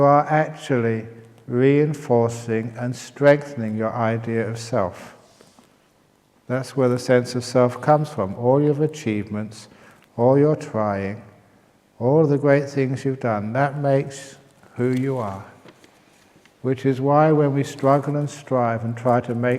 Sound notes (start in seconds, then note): none